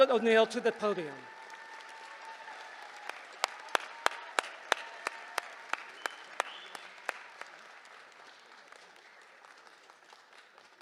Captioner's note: applause